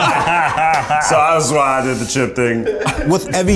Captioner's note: laughs